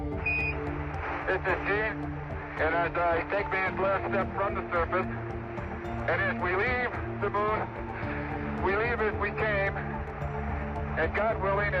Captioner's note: high-pitched beep